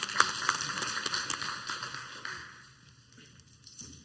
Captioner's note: clapping